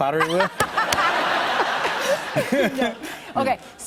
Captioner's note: laughter